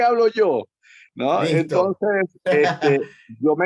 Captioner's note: laugh